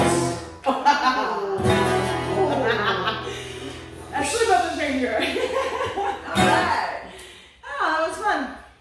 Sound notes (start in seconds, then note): 5.0 laughing